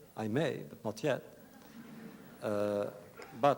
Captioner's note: laughter